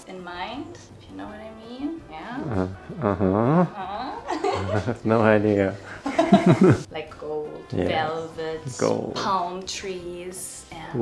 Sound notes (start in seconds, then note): 5.8 both laugh; 5.8 both laughing